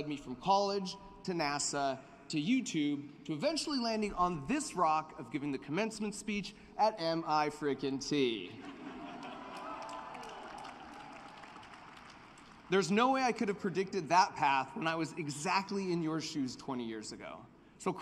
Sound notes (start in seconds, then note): 8.5 laughter; 8.8 cheering and applause